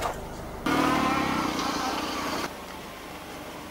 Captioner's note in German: motorgeräusche